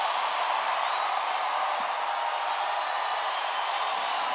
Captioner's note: cheers